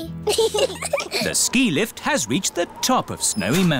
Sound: both giggle

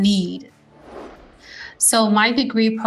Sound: screen whooshing

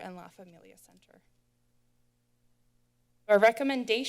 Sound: silence

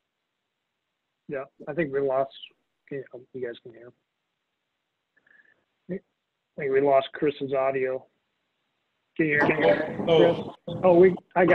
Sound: mic cutting out

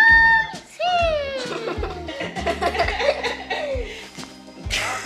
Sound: family laughing

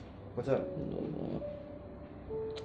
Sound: mumbling

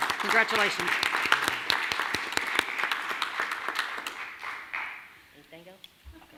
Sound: clapping

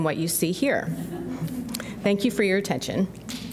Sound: audience laughs

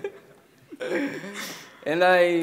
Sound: laughing

